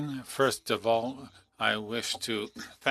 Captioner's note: speaking French